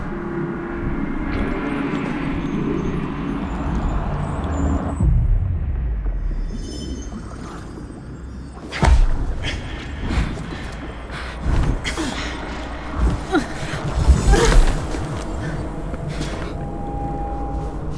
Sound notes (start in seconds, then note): 8.8 air whooshing